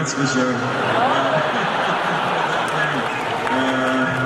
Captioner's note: laughing